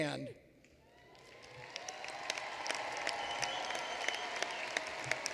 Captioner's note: applause